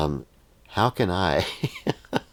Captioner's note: laughs